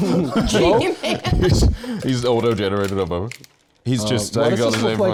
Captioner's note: laughing